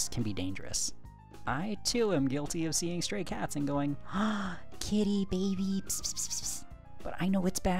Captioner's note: gasp